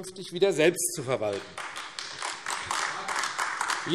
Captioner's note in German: Beifall AfD